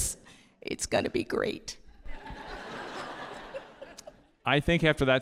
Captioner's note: audience laughing